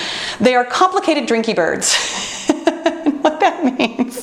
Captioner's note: laughs